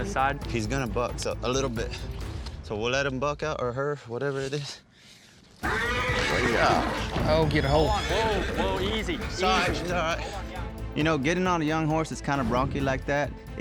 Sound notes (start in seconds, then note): 5.6 horse whinnies